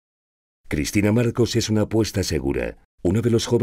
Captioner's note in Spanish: Voz en off